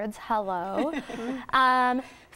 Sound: laughing

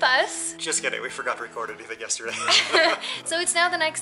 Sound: laughter

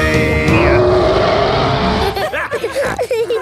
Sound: roaring; laughter; snorting

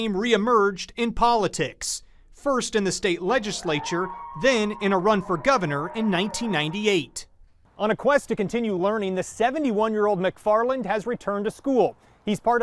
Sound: laughs

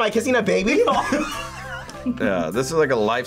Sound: both laugh

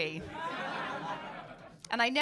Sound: laughter

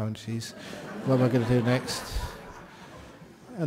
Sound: laughter

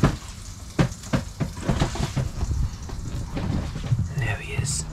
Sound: footsteps stomping

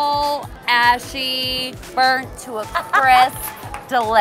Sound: laughs

